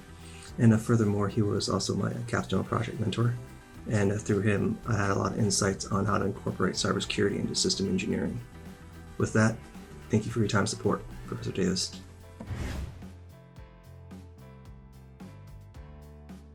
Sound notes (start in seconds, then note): 11.9 air whooshing; 13.3 soft music